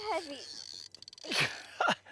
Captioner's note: drag Noise; laughter